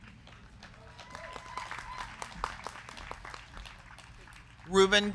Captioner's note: crowd clapping; crowd cheering